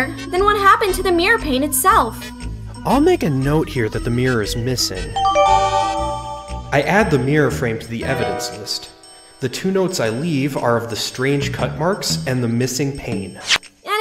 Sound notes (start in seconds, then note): 5.1 new evidence chime